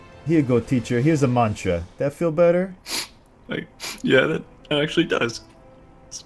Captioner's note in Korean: 훌쩍